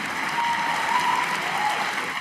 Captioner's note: cheers and applause